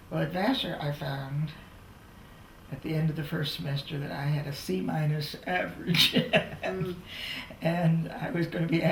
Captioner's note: laughs